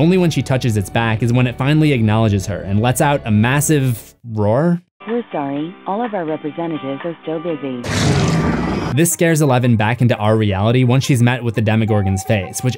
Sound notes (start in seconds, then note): 5.2 automated voice; 7.8 roar